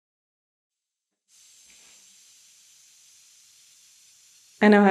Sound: air leaking from tire

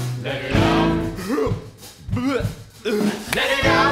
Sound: dry heaving

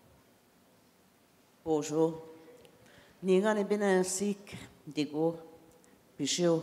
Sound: in Indigenous language for next 3 min

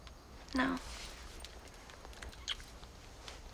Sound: small kiss

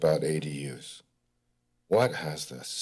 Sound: pause

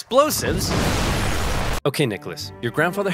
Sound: bomb exploding loudly

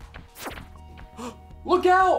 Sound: gasp

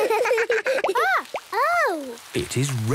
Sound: water dripping

